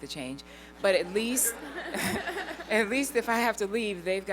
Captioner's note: laughter